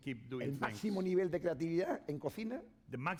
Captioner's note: speaking spanish